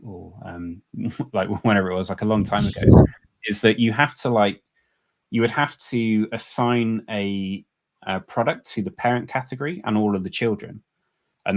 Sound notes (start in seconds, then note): 0.9 chuckles